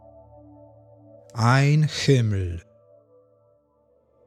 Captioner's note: german